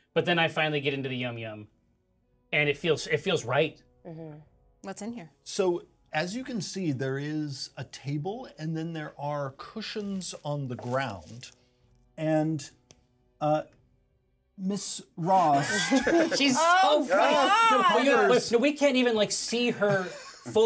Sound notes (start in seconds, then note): 15.6 laughs; 15.6 speaker laughs